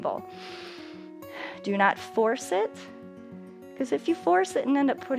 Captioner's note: inhales